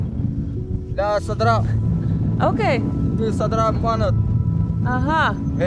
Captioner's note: herder speaks foreign language